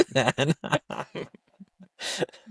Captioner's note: laughing